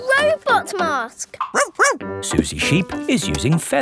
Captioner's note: barks